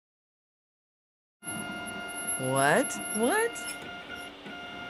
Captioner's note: machine whirs